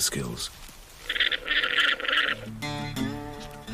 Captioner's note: bleating; lively country music